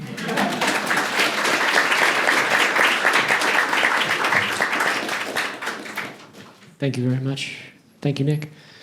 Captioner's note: applause